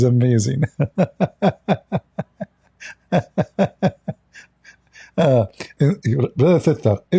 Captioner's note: Ketawa